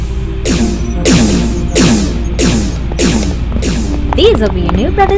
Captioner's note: laser sounds